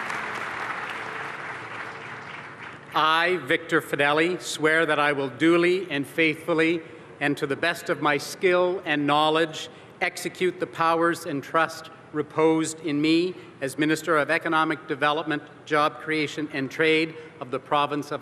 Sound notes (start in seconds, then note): 3.5 applause